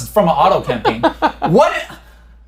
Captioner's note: laughs